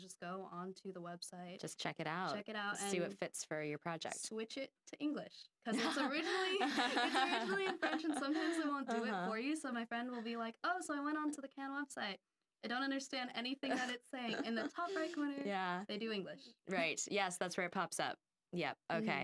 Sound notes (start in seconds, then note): 5.8 laughing; 14.2 chuckling